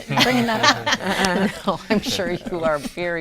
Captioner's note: laughing